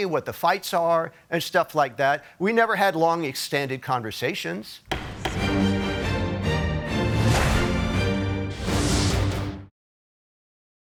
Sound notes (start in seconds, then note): 4.8 gavel clacking; 4.9 dramatic music